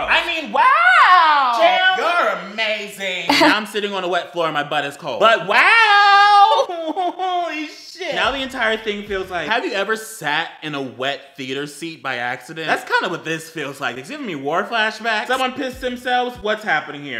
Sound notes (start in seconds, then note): 3.3 eheheh